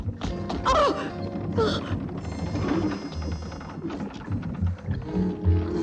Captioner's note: girls whimpering and screaming